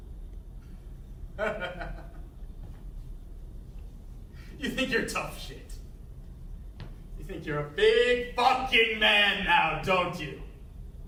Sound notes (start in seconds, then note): 1.4 quiet laughter